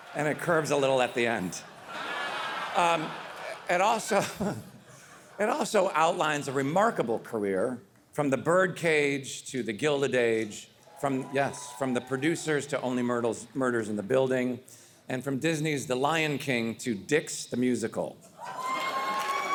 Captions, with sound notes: and it curves a little at the end. It also outlines a remarkable career, from "The Birdcage" -to "The Gilded Age", -(audience cheering) yes, from "The Producers" to "Only Murders in the Building", and from Disney's "The Lion King" to "Dicks: The Musical".